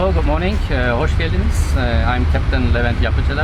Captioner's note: speaking in foreign language